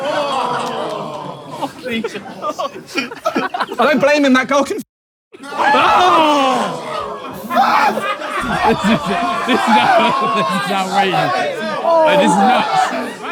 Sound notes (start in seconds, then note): 0.2 people in room groaning; 5.4 people in room exclaim; 8.5 people in room laughing and exclaiming